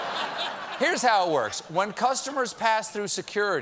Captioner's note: laughter